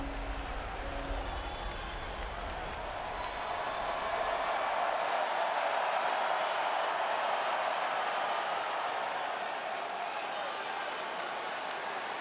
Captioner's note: applause